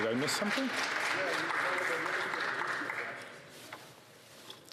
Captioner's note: some Applause